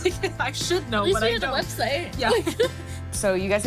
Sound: laughs; laughs

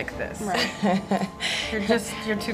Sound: chuckles

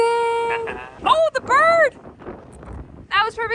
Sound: laughs

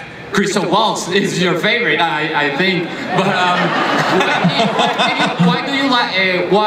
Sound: laughter

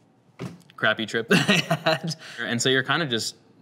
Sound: laughs

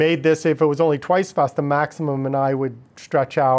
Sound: voice muffled

